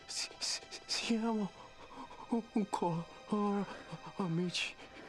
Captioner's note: Italian spoken audio